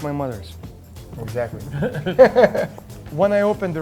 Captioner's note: chuckling